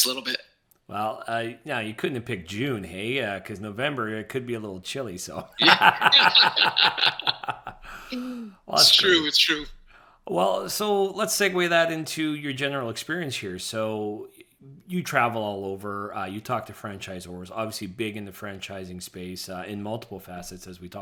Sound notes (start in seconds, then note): 5.4 laughing